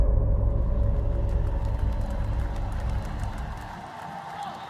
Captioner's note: audience cheering